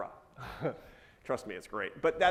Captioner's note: chuckles